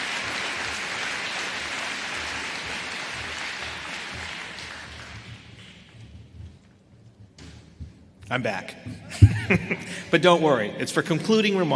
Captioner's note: applause